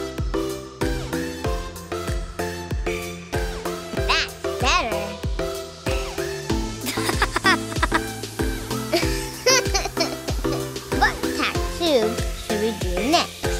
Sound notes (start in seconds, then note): 6.8 boy Laughter; 8.7 girl Laughter